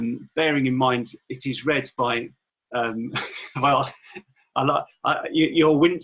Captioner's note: laughing